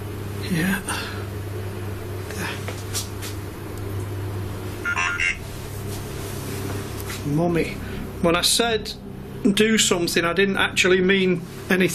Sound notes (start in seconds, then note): 4.8 beeping